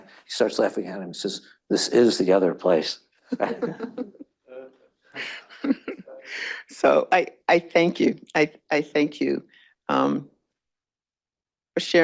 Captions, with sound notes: He starts laughing at him. He says, this is the other place. (attendees laugh) - So I thank you for sharing your time with us